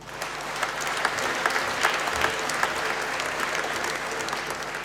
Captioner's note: applause